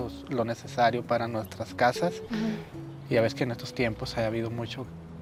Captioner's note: speaking Spanish